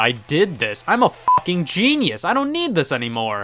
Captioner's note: beep